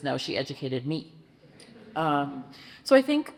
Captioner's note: audience chuckles